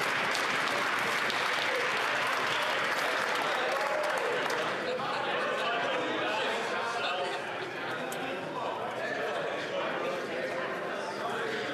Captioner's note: some Applause